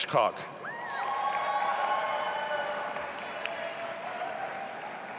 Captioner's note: audience applauding